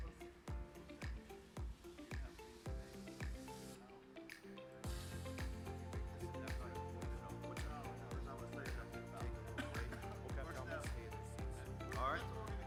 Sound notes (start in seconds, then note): 0.0 speaking faintly; 0.3 upbeat music; 6.7 speaking faintly; 9.1 speaking faintly; 9.5 attendee coughing